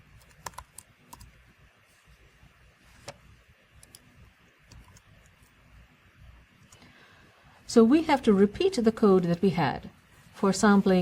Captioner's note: pause